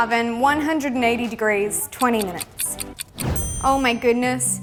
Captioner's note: loud ticking